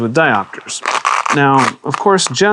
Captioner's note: velcro opening